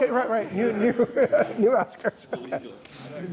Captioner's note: laughs